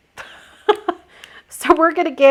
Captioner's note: laughing